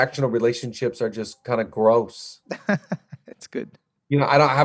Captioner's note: laughs